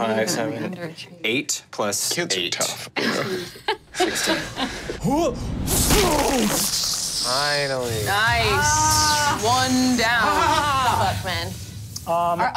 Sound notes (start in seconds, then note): 5.5 blow landing; 5.5 grunts